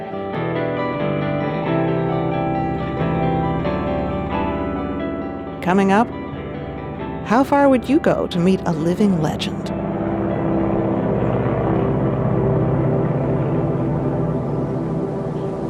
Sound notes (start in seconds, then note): 0.2 inspirational music continues; 10.9 plane engine buzzing